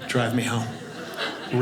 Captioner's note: audience laughing